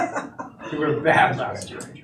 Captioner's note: laughter